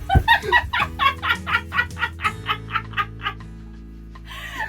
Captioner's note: hysterical laughter